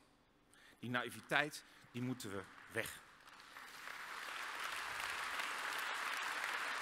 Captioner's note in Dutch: applaus